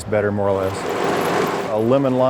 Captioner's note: rattling